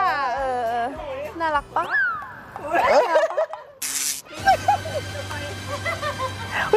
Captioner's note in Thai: เสียงหัวเราะ